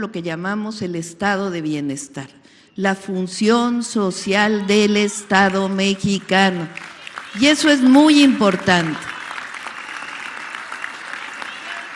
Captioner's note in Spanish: aplausos